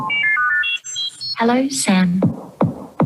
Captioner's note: dial pad tones